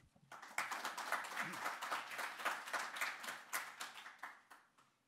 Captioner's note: audience applauding